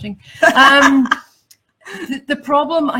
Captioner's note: laughs